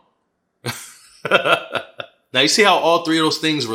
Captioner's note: laughing